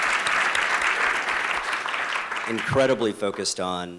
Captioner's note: applause